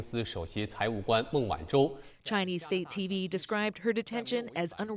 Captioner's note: speaking Foreign Language